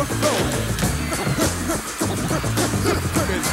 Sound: vinyl record spinning

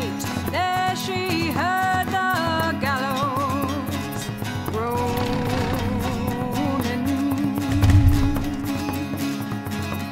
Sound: sounds of rope groaning & gallows trap slamming open

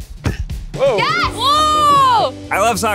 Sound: group exclaims

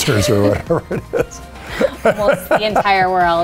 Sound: both laughing

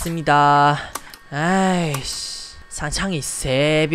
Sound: sighs in korean

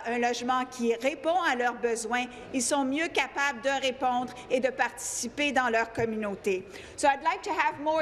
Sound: speaking in French

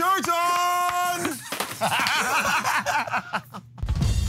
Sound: laughter and applause

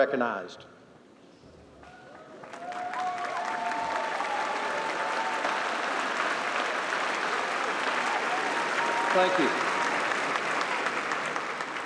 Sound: applause

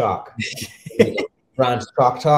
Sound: chuckles

